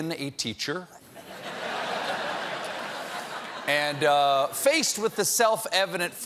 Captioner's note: laughter